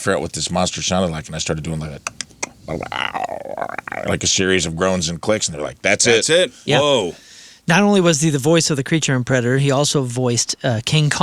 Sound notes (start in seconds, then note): 3.3 imitates monster